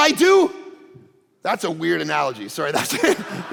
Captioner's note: congregation laughing